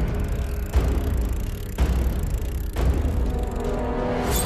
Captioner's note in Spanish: Ruido del cabrestante